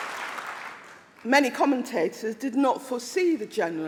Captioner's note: applause